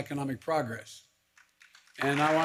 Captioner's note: applause